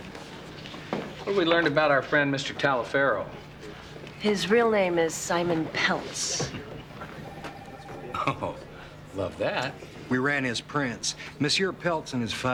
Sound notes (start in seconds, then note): 7.9 chuckling; 8.0 Joe chuckling